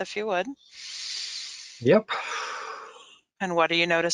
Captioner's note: inhales softly; exhales softly